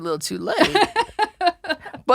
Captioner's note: laughing